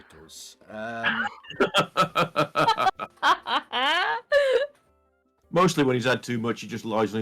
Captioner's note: all laugh